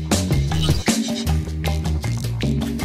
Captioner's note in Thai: เสียงกดปุ่ม